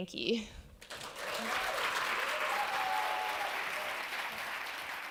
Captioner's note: applause and cheers